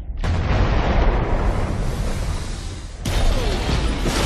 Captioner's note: exploding